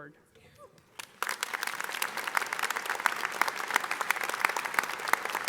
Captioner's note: audience applauding